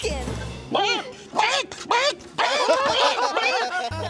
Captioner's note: chicken clucking; laughing